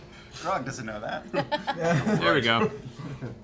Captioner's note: laughter